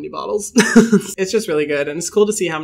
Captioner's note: laughing amusingly